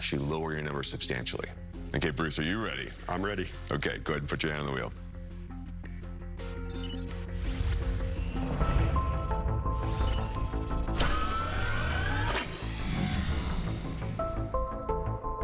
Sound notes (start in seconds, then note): 8.4 mysterious music; 9.9 machine whirring